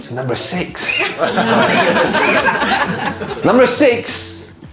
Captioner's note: audience laughing